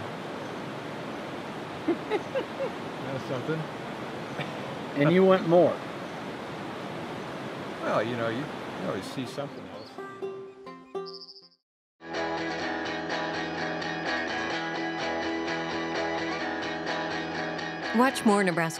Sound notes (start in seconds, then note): 1.8 laughing; 12.4 bird chirping; 12.4 gentle acoustic guitar music; 17.9 upbeat music